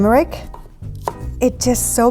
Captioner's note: chops